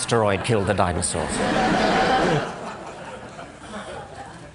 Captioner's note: laughter